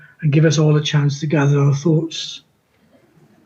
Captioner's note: none